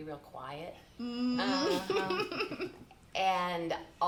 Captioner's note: chuckling